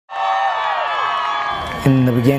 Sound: crowd cheering

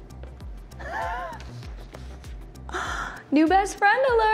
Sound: laughs

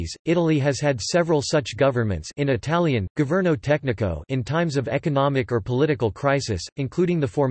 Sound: in Italian, governo tecnico

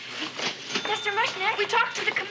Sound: cash register ringing

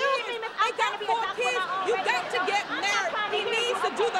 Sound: Louise arguing

